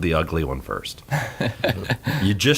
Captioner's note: hosts laugh